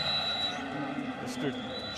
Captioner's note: whistle blows